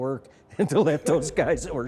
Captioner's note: laughs